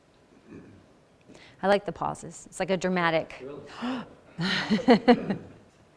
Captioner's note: gasp